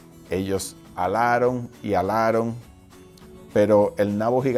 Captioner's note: speaking foreign language